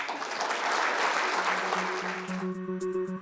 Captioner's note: applause; pleasant music